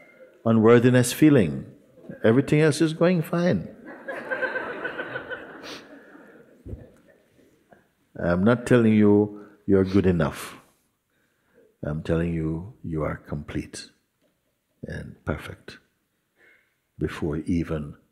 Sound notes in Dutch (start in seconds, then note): 3.8 gelach